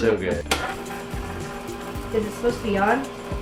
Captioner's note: machine running